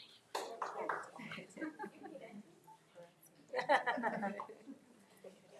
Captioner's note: attendees chattering